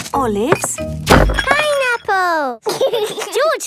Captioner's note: bangs; laughs